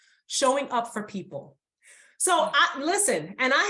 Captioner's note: none